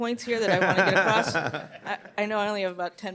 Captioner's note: laughs